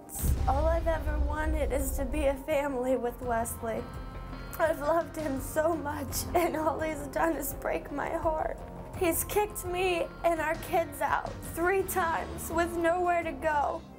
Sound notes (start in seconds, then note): none